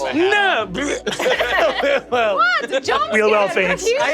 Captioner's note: mimics vomiting